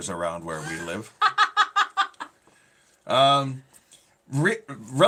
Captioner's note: laughing